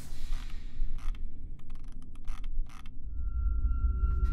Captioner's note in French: bruits de molette de souris